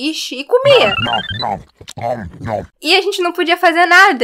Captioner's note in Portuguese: Nhom nhom nhom